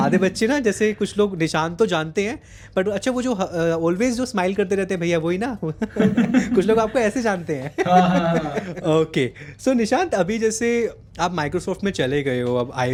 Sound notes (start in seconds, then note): 5.9 laugh